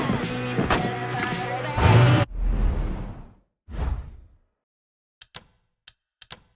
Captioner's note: rock music; ticking